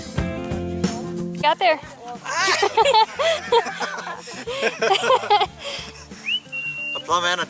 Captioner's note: laughter